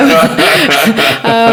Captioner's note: all laughing